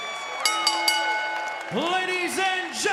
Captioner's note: bell ringing